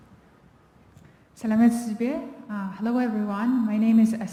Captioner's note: non-english speech